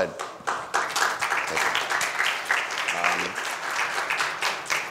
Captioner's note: audience applauds